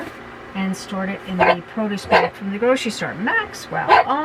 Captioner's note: bark